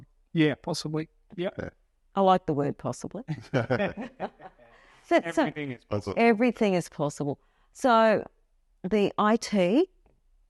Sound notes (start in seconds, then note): 3.3 laugh